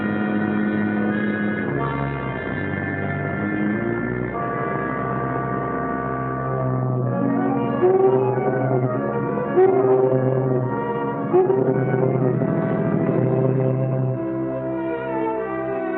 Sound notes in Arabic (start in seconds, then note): 7.0 موسيقى أوركسترالية خفيفة; 7.6 بوق السيارة